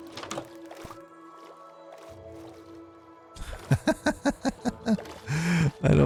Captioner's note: laughs